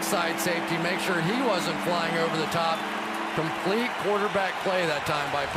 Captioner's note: cheering